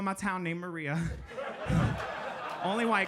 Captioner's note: audience laughing